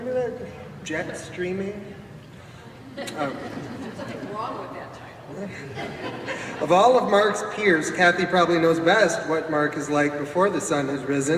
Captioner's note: laughter - : There's nothing wrong with that title